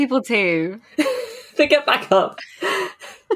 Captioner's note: laughs